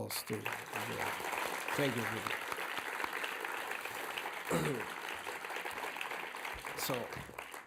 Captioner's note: applause